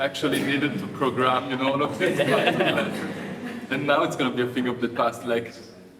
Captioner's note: audience laughing